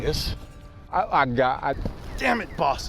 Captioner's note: footsteps